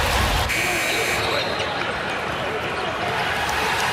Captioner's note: buzzer goes off